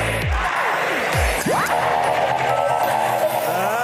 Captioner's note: crowd chanting